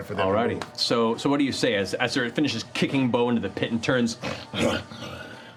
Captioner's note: snarling